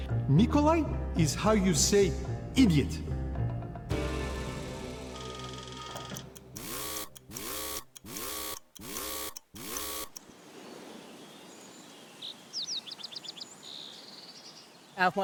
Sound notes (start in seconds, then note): 5.1 clock whirring and ticking; 7.0 alarm blaring; 9.5 wind rustling; 10.2 birds chirping